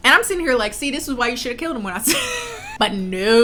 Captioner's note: laughs